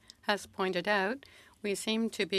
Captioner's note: speaking French